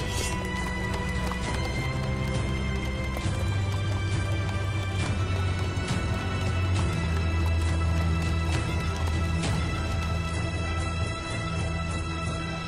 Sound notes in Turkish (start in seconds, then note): 0.0 Nal sesleri; 0.2 Kılıç sesleri